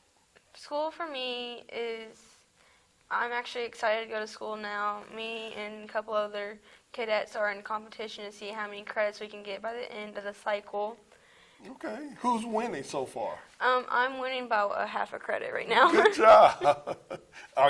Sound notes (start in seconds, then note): 15.8 laughs